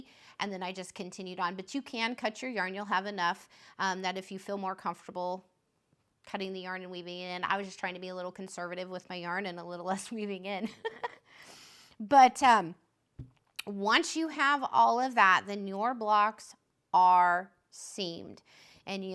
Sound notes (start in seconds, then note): 10.7 laughs